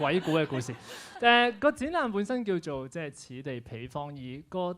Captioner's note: laughs; Cantonese